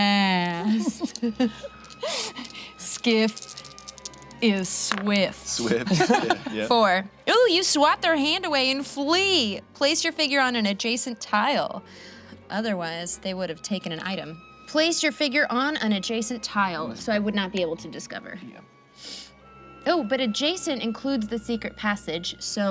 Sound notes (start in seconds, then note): 0.6 group chuckles; 5.7 group laughs